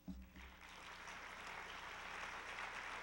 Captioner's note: applause